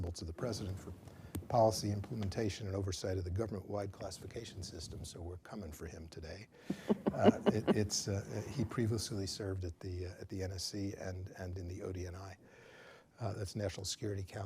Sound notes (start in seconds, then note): 6.7 laughs